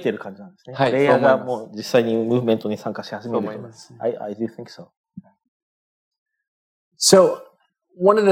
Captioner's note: speaking japanese; speaking japanese